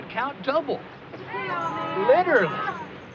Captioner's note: grumbling